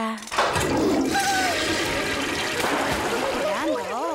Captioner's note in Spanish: Suena como cadena del WC